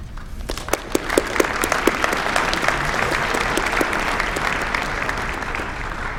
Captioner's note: applause